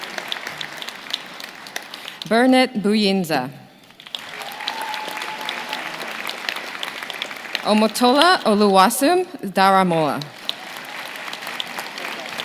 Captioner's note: names being called